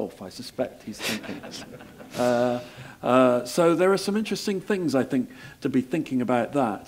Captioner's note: laugh